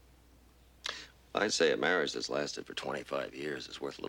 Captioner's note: scoffs